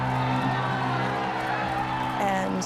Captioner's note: people cheering